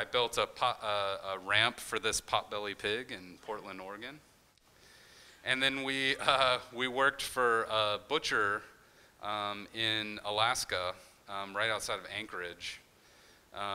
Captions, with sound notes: I built a ramp for this potbellied pig in Portland, Oregon. And then we (chuckles) we worked for a butcher in Alaska right outside of Anchorage.